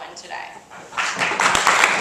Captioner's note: clapping